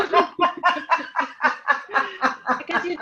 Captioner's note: laughing